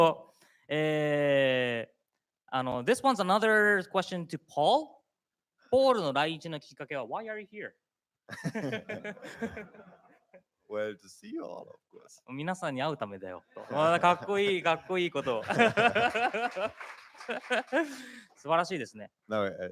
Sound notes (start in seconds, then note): 0.0 speaking japanese; 5.8 speaking japanese; 16.0 speaking japanese